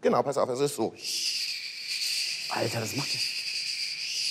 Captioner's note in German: Er imitiert hydraulische Laute